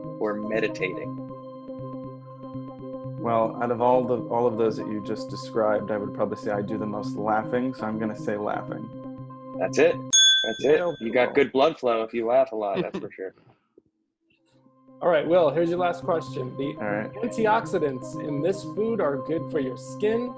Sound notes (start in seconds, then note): 1.1 soft music; 10.1 bell ring; 10.7 laughs; 15.0 soft music